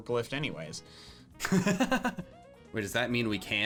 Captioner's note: laughing